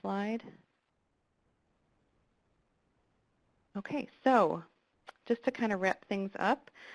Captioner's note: pause